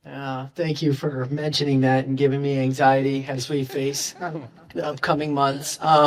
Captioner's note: laughter in audience